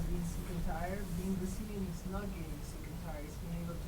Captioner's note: voice muffled